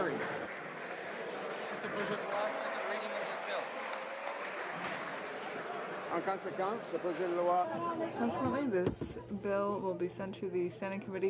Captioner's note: speaking French